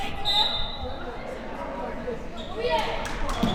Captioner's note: whistle